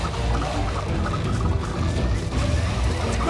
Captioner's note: speaks tribal language